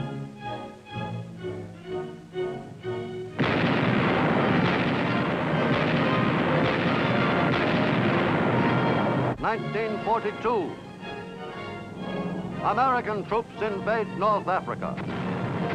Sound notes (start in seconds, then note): 0.2 determined music; 3.3 artillery blasting